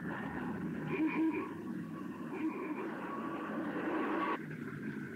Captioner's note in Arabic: صوت بوق السيارة